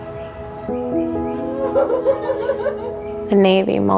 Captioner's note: family laughing